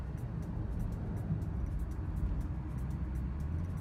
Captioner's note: ambient road noise